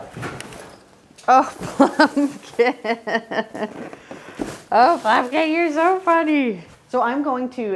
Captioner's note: laughing